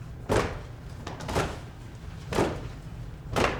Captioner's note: stomping